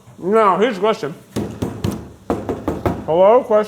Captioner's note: knocking